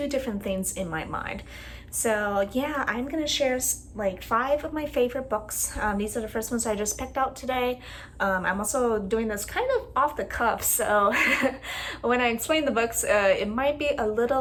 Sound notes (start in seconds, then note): 11.1 laugh